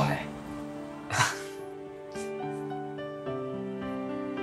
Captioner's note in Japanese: 笑い